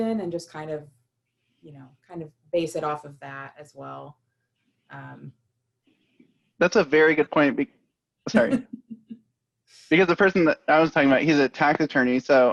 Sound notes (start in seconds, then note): 8.3 laughter